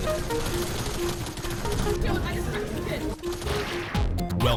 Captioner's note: guns firing